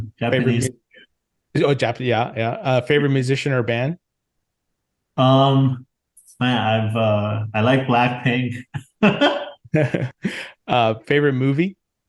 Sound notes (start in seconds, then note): 9.3 laughs